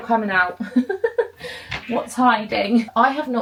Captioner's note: laughs